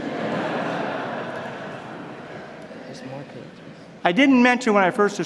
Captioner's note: laughter